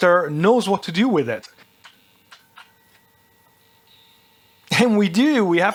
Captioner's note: beeping